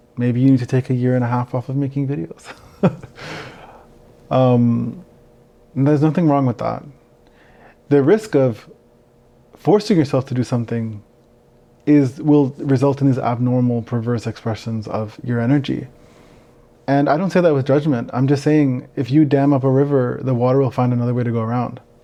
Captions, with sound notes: Maybe you need to take a year and a half off of making videos. (chuckles) There's nothing wrong with that. The risk of forcing yourself to do something will result in these abnormal, perverse expressions of your energy. And I don't say that with judgment. I'm just saying if you dam up a river, the water will find another way to go around.